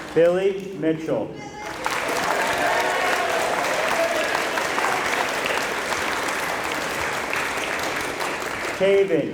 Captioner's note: applause